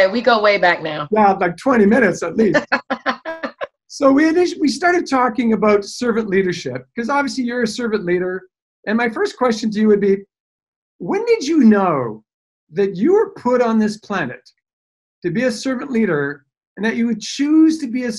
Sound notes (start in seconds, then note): 1.9 laughing